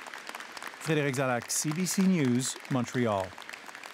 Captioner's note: applause